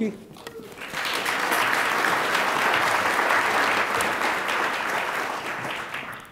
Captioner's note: attendees applaud